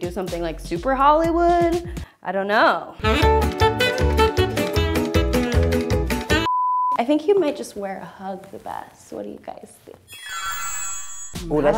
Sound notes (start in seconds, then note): 3.0 upbeat music; 6.4 beep; 10.1 chime